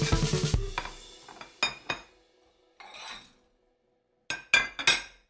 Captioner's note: dishes Clatter